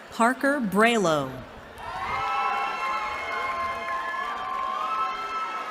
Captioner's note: cheering